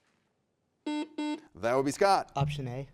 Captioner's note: buzzer buzzes